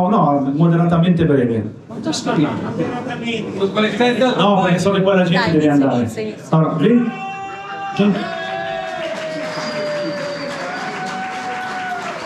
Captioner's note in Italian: Applauso